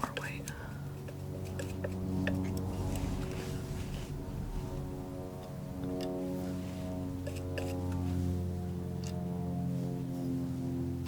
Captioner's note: scissors snipping